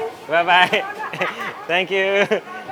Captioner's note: chef laughing